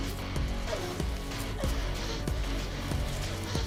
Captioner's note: crying; leaves crackling